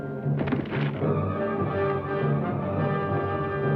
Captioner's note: distant thuds